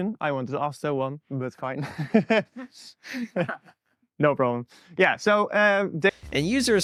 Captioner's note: nervous laughter